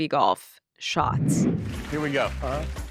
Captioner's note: screen whooshing